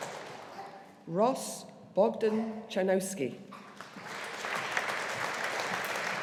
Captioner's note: audience applauding